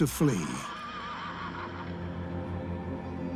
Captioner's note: horse neighing